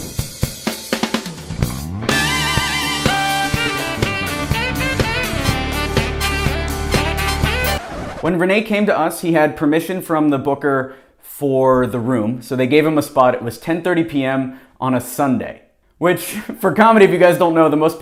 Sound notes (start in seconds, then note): 1.5 jazzy music; 7.7 record scratching